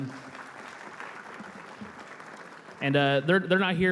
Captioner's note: applause